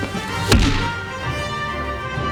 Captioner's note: kablam